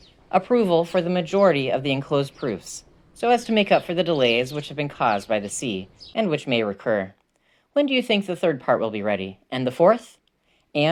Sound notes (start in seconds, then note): none